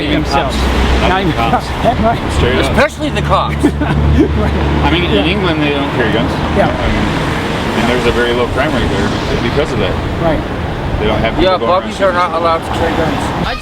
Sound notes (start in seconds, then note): 3.3 laughing